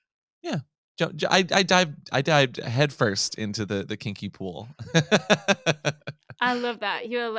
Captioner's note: laughs